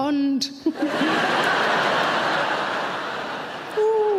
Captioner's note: audience laughing